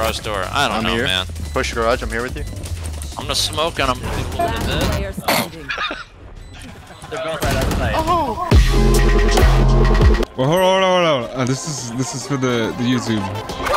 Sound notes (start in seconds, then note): 7.3 guns firing; 8.1 upbeat music